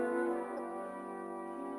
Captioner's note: none